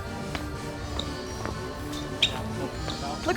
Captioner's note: shuffling squeaky shoes